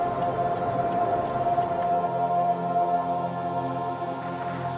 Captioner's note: futuristic drone sounds